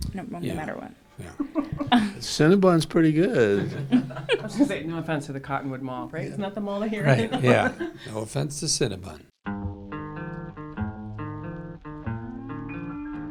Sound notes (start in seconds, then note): 3.7 laughing; 9.5 light melodic music